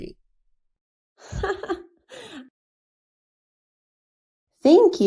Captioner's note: riéndose